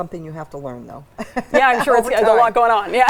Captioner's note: laughs